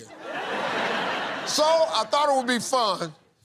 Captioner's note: laughter